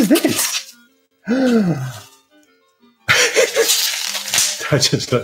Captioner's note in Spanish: riendo como un niño